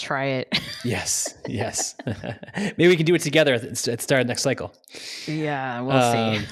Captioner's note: laughs